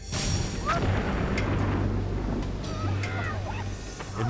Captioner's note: dynamite exploding